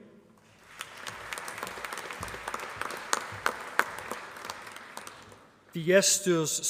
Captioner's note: applause